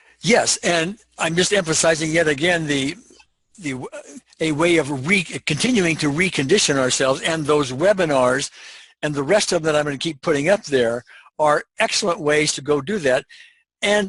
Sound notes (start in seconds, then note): none